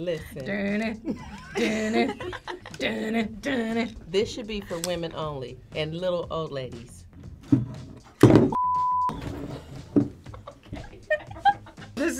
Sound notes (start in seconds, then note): 8.5 test pattern beeps; 10.2 laughs